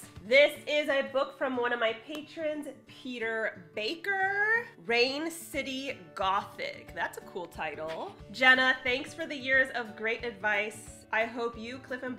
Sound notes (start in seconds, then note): none